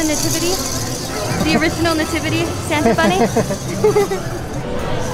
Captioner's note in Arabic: يضحك